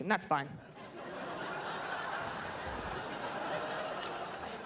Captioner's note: audience laughs